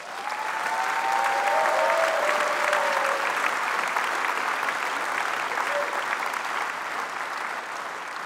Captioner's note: applause